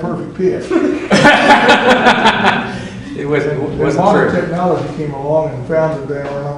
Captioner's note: laughter